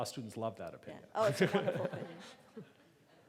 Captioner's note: laughing; laughs